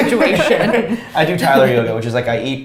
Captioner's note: both laughs